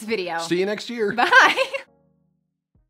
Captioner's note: laughs loudly